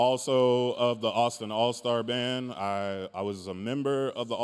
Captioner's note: none